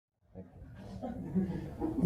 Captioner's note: laughter